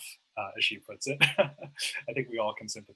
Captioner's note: laughs